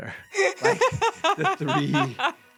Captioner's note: laughing